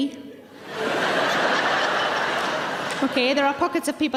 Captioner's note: audience laughing